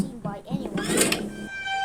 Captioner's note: walking; door closes